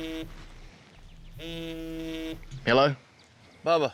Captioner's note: phone vibrating